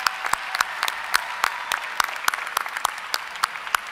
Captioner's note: applause